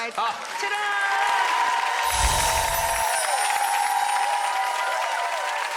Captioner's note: audience cheering